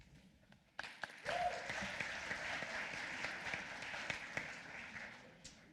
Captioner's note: applause